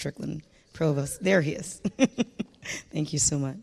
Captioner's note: chuckles